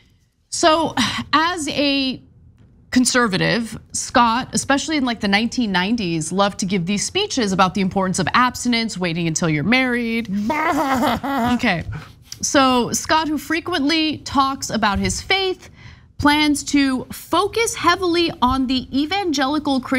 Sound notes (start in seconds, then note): 10.4 laugh